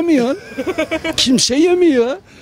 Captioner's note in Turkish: Gülme sesi